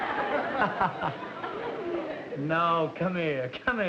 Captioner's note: chuckles